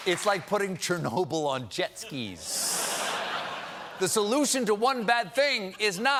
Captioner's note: laughter